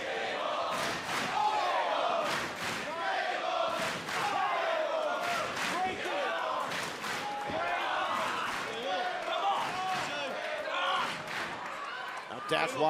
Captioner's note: crowd cheering